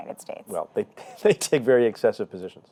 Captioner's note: chuckling